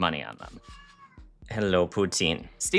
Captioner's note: cat meowing